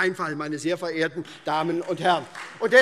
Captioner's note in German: Beifall SPD